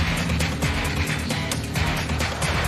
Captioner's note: static buing